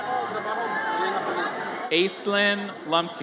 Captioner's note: audience cheers